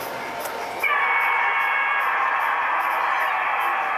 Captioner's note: machine cheering